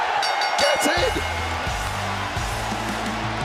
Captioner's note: bell rings